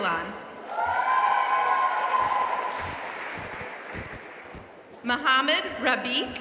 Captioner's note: audience cheering and applauding